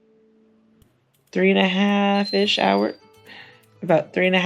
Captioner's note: phone chime